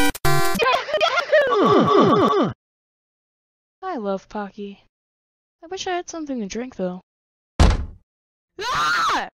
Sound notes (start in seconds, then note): 1.4 Mario yahoo Sound effect; 1.5 Mario UhHh Sound effect; 7.6 door Sound Slam Open